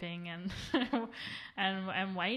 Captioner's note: laughs